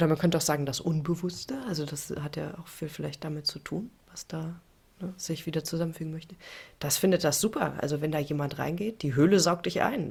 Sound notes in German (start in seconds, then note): none